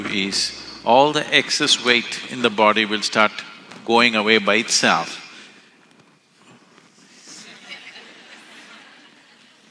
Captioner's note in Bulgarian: Смях